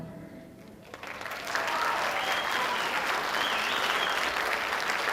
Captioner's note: audience applauding